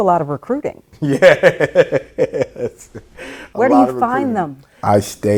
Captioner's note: laughs